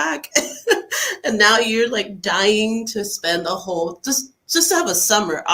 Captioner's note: laughs